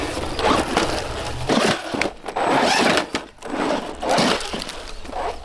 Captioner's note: wind Blowing